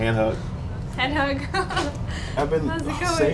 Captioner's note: laughs